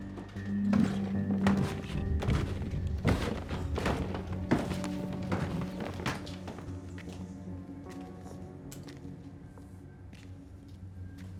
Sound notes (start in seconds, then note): 2.1 footsteps thumping; 7.6 intense music continues